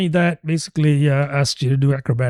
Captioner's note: uh